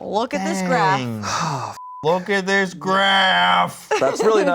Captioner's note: beep